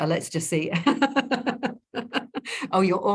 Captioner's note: laughing